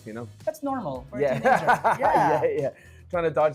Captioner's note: chuckles